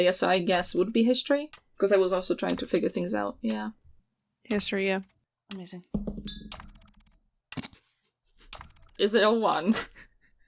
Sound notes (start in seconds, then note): 7.8 gentle dice thunks; 9.6 giggling softly